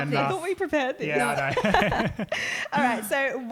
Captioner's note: laughing